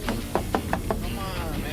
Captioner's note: knocking on window